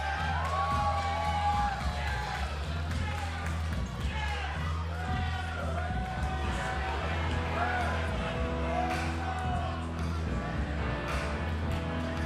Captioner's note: crowd cheering